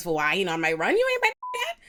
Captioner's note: beep